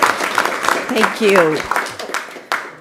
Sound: applause

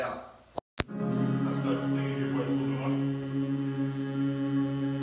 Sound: everyone humming

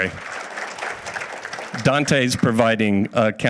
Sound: audience applauds

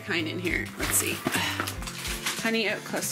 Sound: sighs

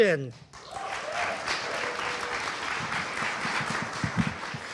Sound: audience applauding

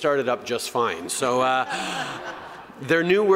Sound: laughter

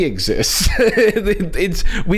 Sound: chuckles

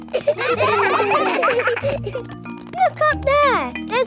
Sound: children laughing

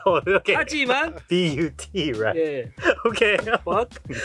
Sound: speaking in Korean

